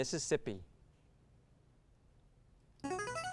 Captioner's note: ring-in sound